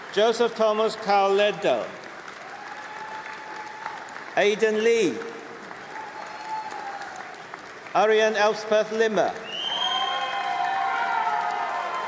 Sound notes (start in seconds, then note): 6.3 applause